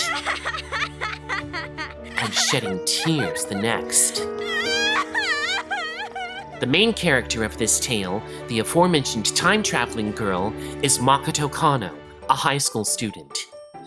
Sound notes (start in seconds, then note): 0.0 laughing; 4.5 sobbing